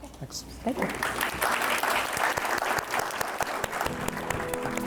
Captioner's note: audience clapping